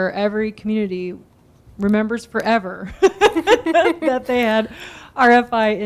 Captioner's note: laughing